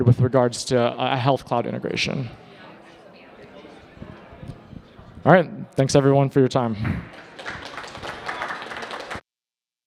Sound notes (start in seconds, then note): 2.8 attendees chatting; 7.0 attendees applauding